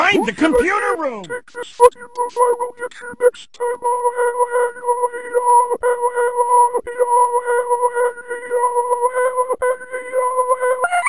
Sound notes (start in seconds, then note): 3.7 laughing; 9.3 laughing High Pitch